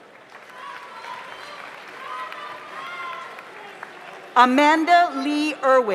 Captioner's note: audience applauds; audience cheers